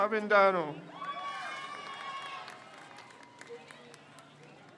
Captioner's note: crowd cheers